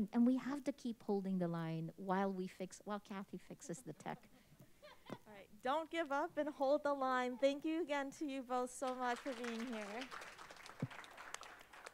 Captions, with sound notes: and we have to keep holding the line while Kathy fixes the tech. (faint laughter from audience) - All right. Don't give up and hold the line. Thank you again to you both so much for being here. (applause)